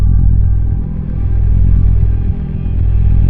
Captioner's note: A threatening electronic rumble; threatening ambient music distorts